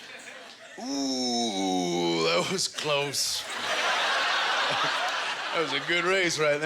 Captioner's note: audience laughter